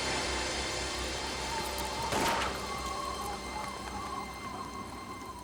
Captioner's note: wind whistles; gun fires